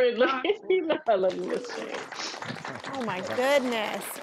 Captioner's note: applause